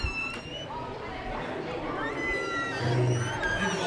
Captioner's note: children screaming